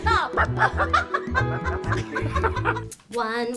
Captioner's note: Leah yells more gibberish